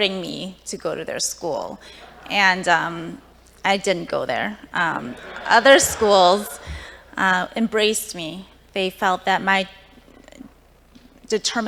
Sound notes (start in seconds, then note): 3.6 laughter